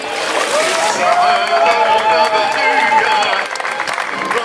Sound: cheers and applause

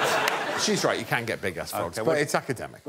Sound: laughter

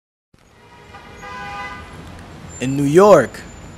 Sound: horn honk

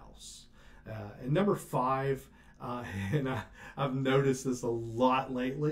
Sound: laughing

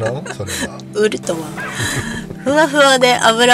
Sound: laughs

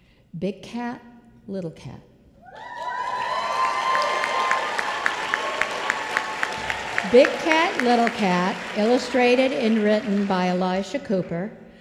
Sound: applause

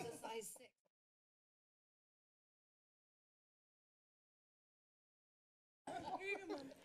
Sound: silence; laughter

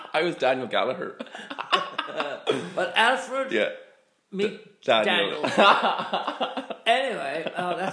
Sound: laughter

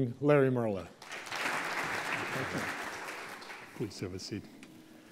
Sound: applause

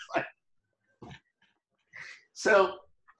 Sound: laughing

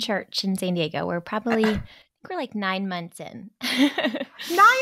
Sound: laughs

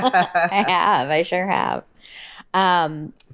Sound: laughs

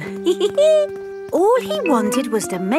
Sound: giggles

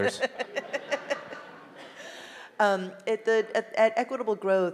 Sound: audience laughing

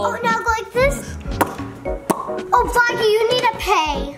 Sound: lips smacking

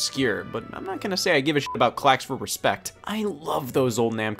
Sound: beep

